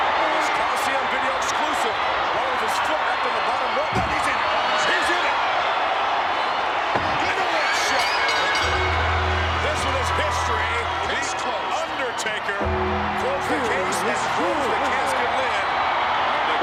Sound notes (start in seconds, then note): 5.7 crowd cheering; 7.2 bell dinging